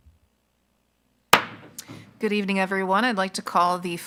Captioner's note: gavel